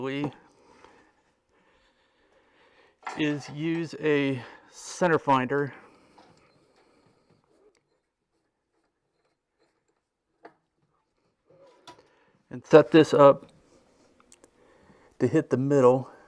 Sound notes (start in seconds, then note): 7.0 sawing